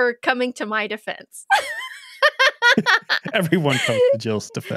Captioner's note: laughing